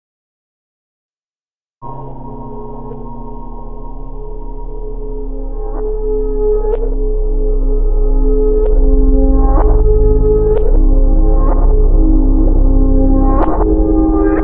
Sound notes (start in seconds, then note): 0.0 sound of stereo echoes